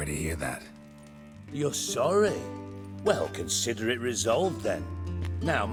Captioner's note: sarcastically